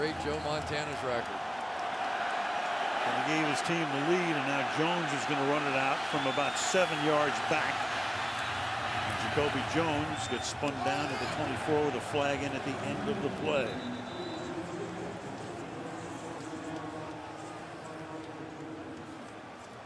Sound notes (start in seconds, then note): 8.2 pa announcement